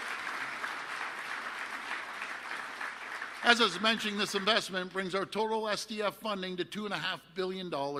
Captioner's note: applause